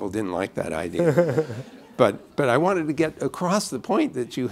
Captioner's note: laughter